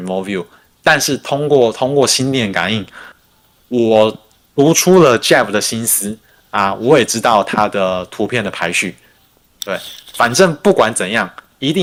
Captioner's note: non-english speech